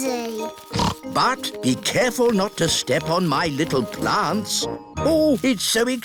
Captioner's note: snorts